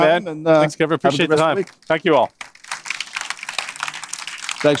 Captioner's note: applause